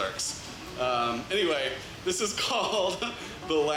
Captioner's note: laughs